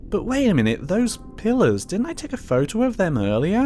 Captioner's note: none